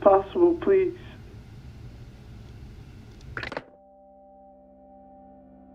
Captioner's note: click